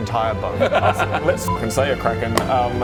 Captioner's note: thinks he's joking laugh